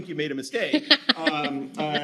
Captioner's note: laughing